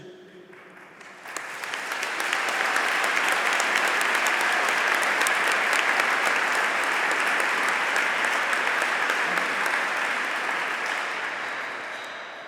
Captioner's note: applause